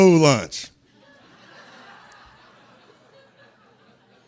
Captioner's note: laughter